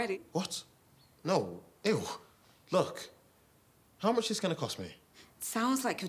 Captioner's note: none